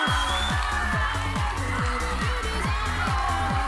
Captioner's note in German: Jubel und Applaus